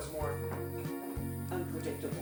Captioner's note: sink running